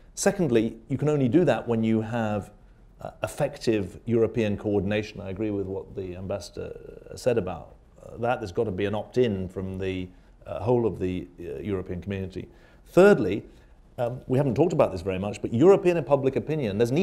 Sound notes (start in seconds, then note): none